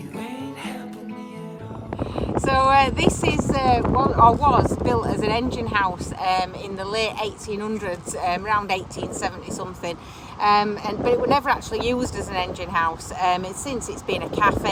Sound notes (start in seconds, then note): 1.9 waves Crashing